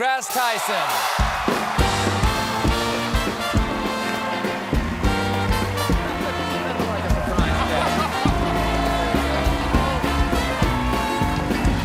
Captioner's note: cheers and applause